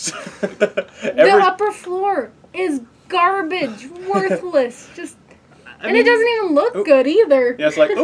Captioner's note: laugh